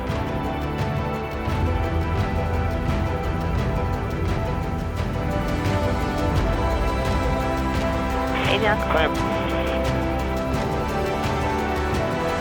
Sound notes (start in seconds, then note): 0.2 upbeat music; 8.3 pilots chatter; 9.6 upbeat music